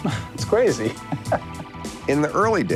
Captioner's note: chuckles